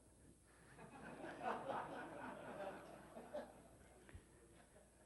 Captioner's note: audience laughs